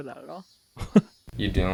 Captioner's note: chuckles